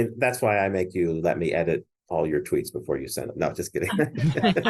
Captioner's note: laughs